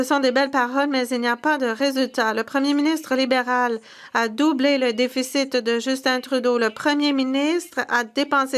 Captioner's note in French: voix de l'interprète